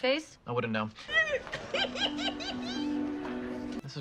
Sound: giggles

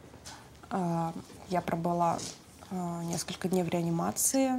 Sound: speaking in foreign language

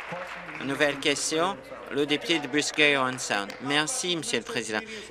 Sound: applause

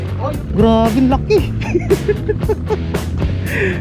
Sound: hehehe

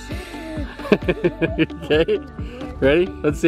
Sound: both laughing

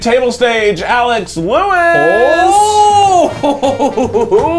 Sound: laughs

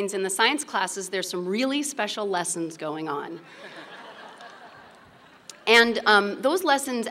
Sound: laughter

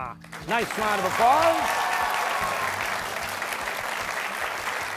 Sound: applause

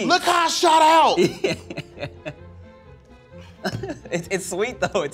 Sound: chuckles

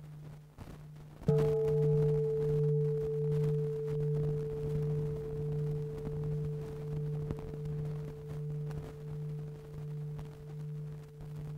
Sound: bell

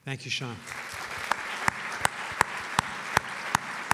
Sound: applause

